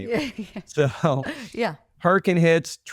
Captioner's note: both laugh